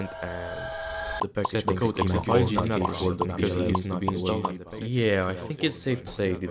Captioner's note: stacked voices